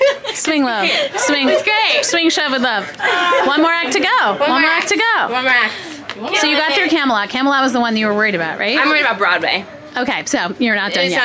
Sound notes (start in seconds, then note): 3.0 people cheering